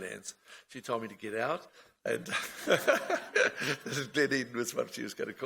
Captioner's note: laughs